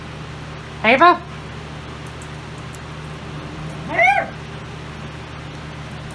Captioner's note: Ella barks